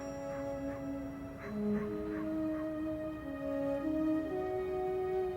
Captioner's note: dog barking; reflective orchestra music